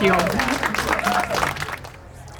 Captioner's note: people applauding